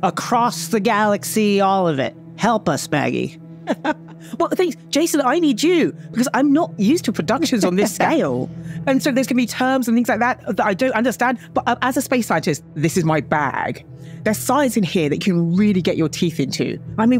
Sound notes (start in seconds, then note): 3.6 laughs